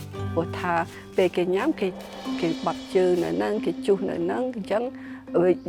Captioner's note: speaking foreign language